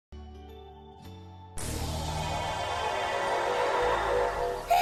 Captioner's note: teleportation sounds